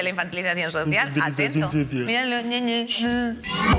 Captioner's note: mocking